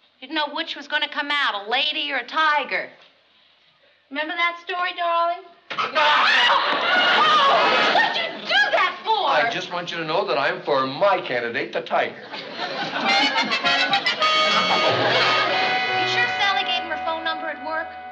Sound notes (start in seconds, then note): 5.8 screaming